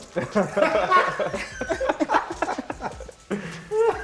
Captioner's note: laughter